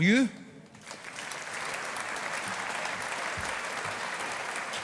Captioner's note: audience applauding